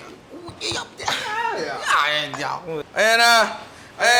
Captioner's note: speaks gibberish